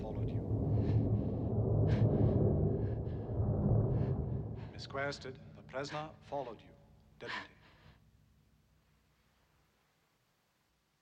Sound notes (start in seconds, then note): 0.0 thunder rumbles; 7.2 breathing heavily